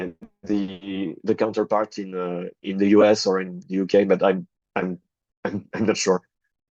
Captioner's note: chuckles